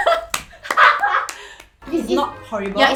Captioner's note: laughing